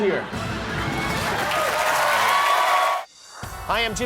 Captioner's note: applause